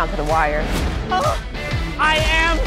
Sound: gasps

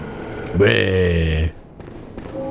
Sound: growling

